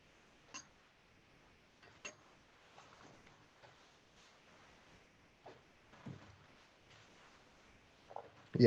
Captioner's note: silence